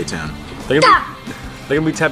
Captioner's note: cartoon voice